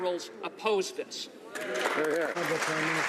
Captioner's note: some Applause